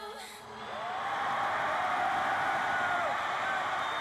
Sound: cheers and applause

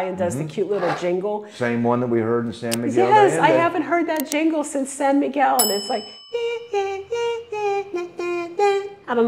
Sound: mimicking melody

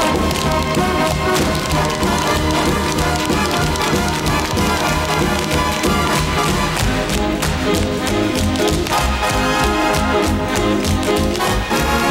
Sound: tap dancing

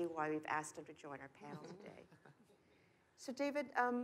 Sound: chuckles

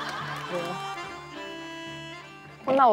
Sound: laughing

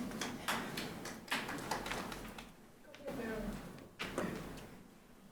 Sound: people applauding quietly

